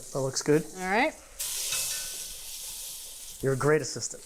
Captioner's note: pan sizzling